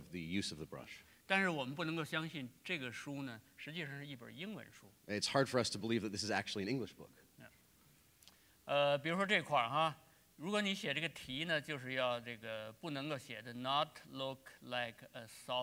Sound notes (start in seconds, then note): 2.6 speaking in Chinese; 8.4 speaking in Chinese